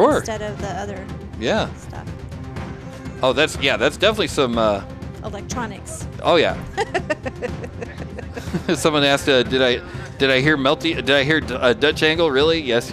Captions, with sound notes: Sure. Instead of the other stuff. Oh, that's, yeah, that's definitely some-- Electronics. Oh yeah. (laughing) Someone asked, did I hear a Dutch angle, really?